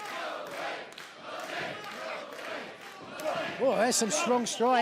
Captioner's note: fans chanting